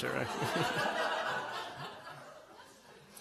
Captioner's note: laughter